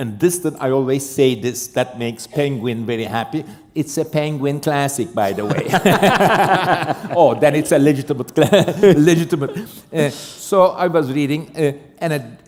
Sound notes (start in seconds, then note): 5.3 laughter